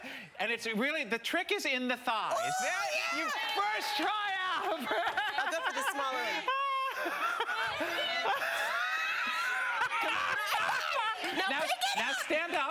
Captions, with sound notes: And it's really-- the trick - is in the thighs. - Oh, yeah! First try out! [laughing] I'll go for the smaller one. [laughter] - Now, pick it up. - Now, stand up.